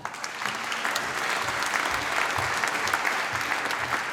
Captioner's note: applause